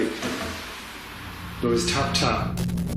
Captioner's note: tapping